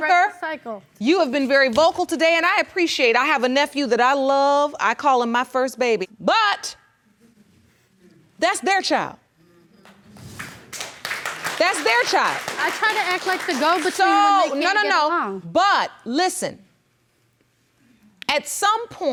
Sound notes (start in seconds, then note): 11.5 audience applauding